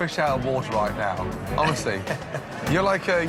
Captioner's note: laughing